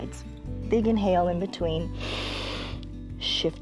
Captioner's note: inhales